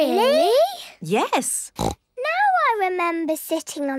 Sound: snorts

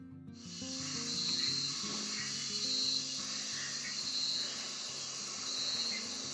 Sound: insects trilling and creatures screeching

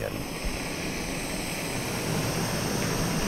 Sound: burner whirrs

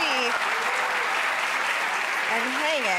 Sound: audience applauding

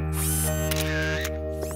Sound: camera click

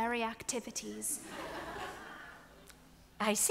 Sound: audience laughs

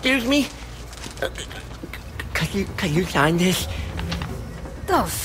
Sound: nervous stuttering

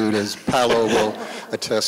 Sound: laughter

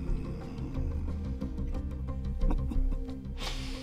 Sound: chuckles

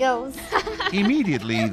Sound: girls laughing

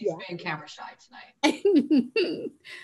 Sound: laughing

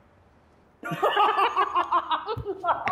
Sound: both laughing

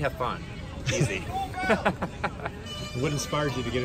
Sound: laughs

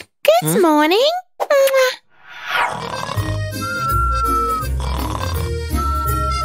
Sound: snoring

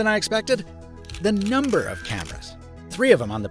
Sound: camera snaps

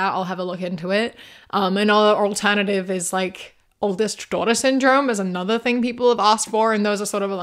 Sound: none

